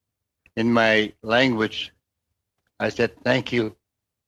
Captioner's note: speaking indigenous language